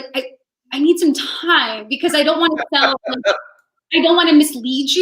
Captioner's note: voice muffled